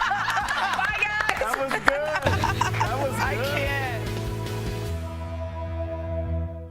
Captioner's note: laughter